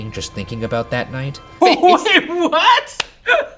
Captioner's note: laughing